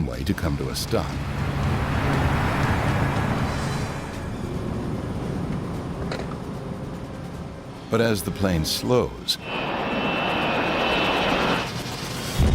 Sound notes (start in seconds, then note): 1.5 humming; 1.5 screeching; 4.5 airplane engine roaring; 9.6 airplane engine roaring